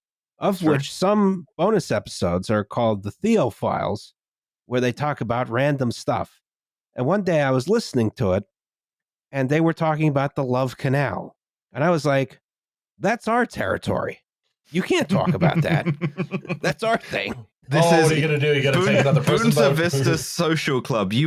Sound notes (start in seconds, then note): 15.0 chuckles